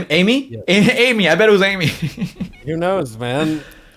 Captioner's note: laughs